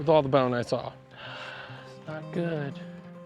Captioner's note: sighing